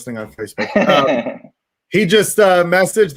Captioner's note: laughs